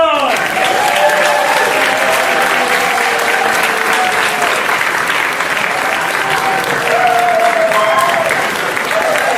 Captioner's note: applause